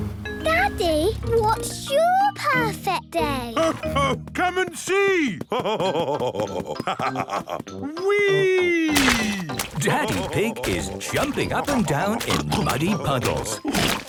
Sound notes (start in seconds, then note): 8.9 splashes